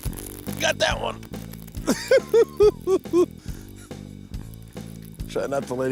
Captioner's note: giggling